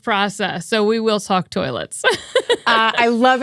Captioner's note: laughs